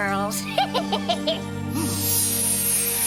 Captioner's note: laughs